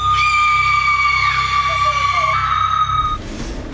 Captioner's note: screaming